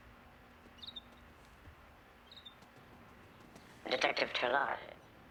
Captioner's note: bird chirping